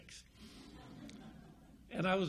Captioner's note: audience laughs